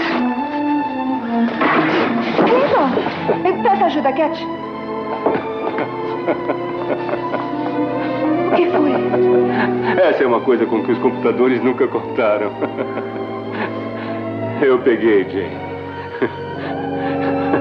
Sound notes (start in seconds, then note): 5.0 chuckling; 12.0 laughing; 15.8 laughing